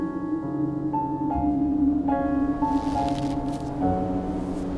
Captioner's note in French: vent qui souffle